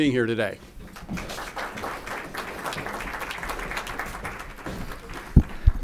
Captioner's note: applause